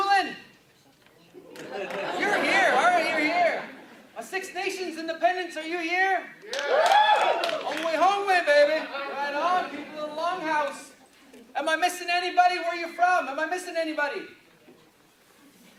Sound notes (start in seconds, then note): 6.4 clapping and cheering